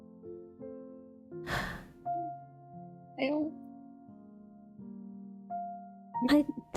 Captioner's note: ROSE sighs